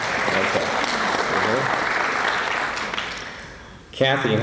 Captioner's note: applause